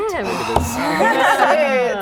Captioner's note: laughing